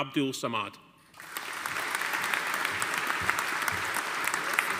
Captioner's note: audience applauding